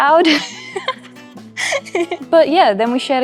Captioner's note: laughing